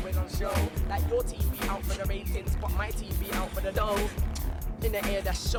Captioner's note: ugh